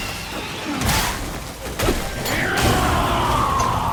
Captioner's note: blows landing